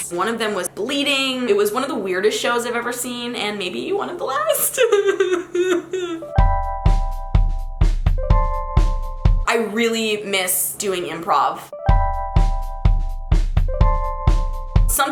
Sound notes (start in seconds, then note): 4.7 cries; 6.6 mellow music; 11.7 mellow music